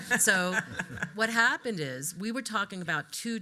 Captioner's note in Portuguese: rindo